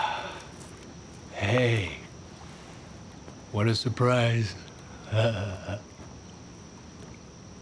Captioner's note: chuckles